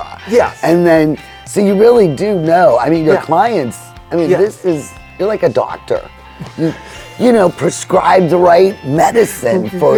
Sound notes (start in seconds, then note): 6.4 laughing